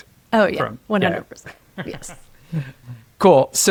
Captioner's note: laughs